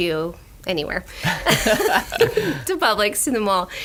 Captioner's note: laughing